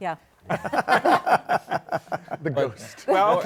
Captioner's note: laughter